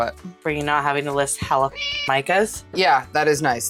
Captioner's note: meow